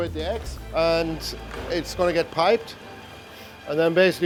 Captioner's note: mixer whirring